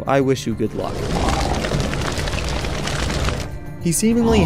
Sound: fire burning and zombie growling

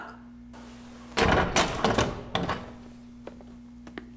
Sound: door clicks open

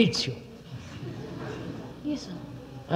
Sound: laughter

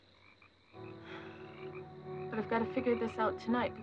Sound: sighing

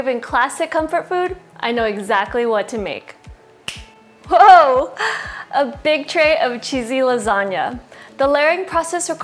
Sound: finger snap

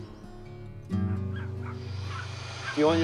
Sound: barks

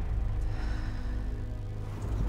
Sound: sighs

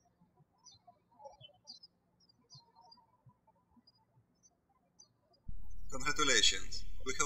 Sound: birds chirping

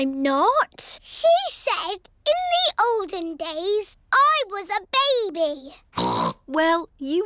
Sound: snorts

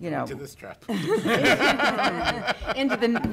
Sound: laughing

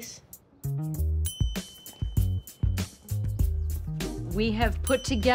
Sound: ding!

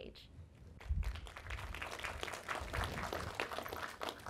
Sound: applause

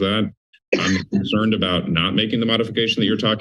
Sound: cough

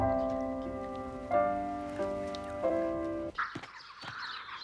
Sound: whispering

